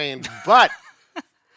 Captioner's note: laughs